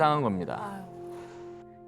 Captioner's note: surprised